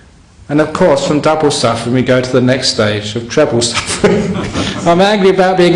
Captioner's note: laughter